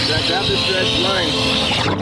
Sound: air hissing; water bubbling

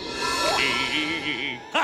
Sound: humming; laughing

